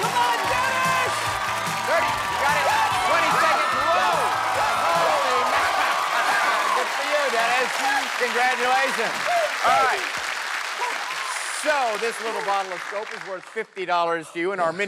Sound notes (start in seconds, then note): 10.4 applause